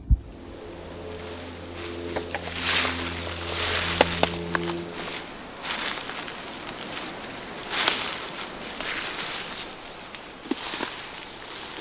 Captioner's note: walking noises